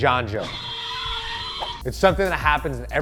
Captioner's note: tires spinning